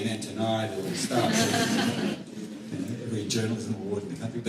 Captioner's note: laughter